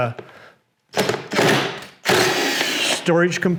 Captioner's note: drill whirring